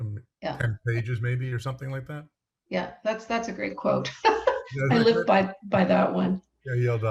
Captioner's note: laughs